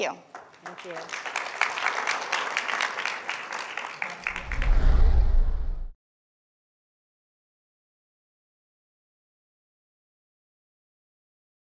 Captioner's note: applause